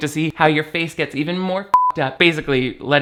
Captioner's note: beep